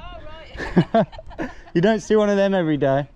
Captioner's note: laughs